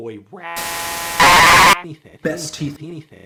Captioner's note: distorted glitching